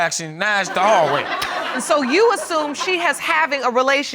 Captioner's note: audience laugh